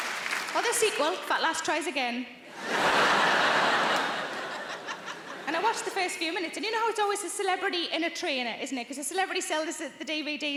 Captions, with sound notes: Or the sequel, "Fat Lass Tries Again." (audience laughing) And I watched the first few minutes and you know how it's always a celebrity and a trainer, isn't it? 'Cause the celebrity sells the DVDs